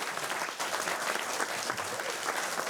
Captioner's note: applause